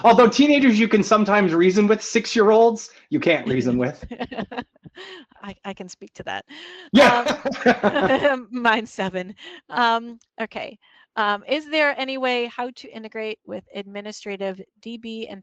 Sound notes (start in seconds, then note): 3.4 chuckling; 6.5 laughs